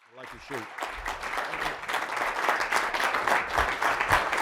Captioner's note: audience applauding